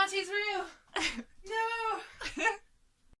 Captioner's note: both laughing